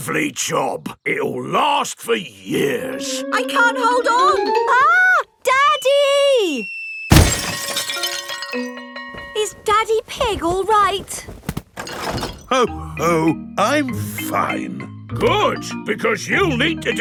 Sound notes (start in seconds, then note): none